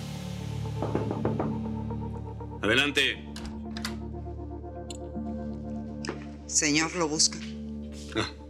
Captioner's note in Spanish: toques en la puerta